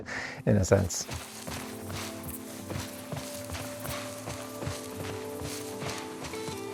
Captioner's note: grass rustling; footsteps thudding